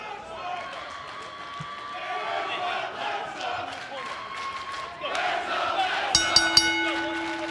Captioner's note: fans chanting; bell ringing